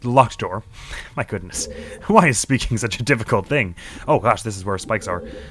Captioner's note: scoffs